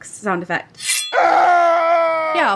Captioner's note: axe, screaming